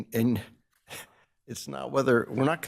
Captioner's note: laughs